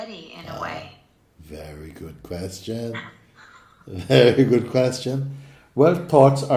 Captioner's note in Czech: smích